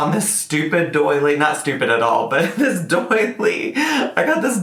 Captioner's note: chuckles